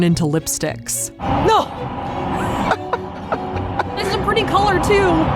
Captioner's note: laughs